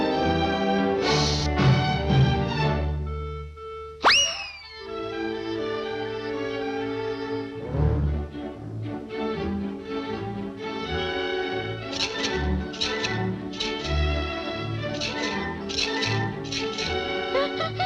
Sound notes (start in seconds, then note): 12.3 salt shaking; 16.5 pepper shaking